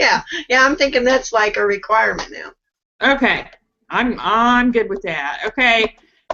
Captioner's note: giggles